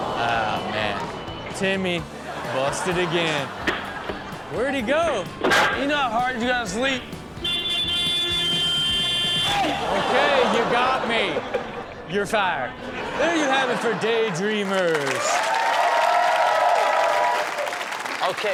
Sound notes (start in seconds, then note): 0.0 audience gasps; 2.1 audience laughs; 7.3 vehicle honks; 9.3 audience gasps; 14.9 audience cheers